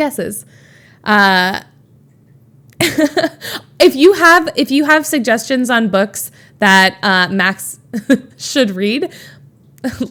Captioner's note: Emma chuckles